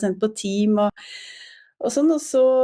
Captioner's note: takes a breath